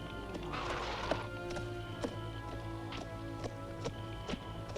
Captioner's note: horse snorts